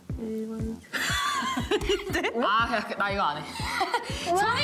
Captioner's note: laughing